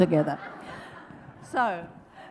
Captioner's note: audience laughs